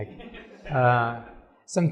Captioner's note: laughter